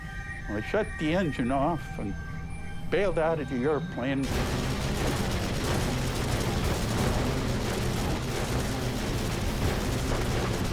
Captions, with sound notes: Well, I shut the engine off and bailed out the airplane. [gunfire]